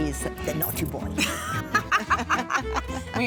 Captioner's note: both laugh